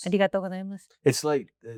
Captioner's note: speaks in foreign language